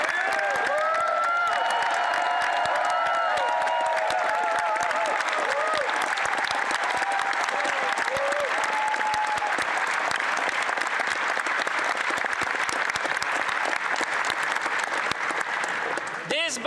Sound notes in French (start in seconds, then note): 0.0 voix de l'interprète; 4.4 applaudissements